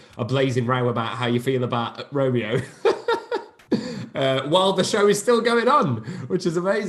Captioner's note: laughs